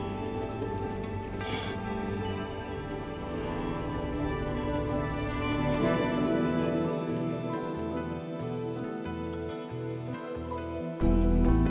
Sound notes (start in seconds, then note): 1.3 Hopkins sighing; 8.9 mysterious music